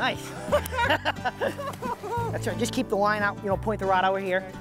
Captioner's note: laughing